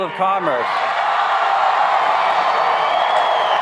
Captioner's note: applauding